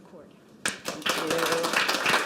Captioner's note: applause